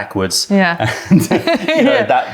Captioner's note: laughter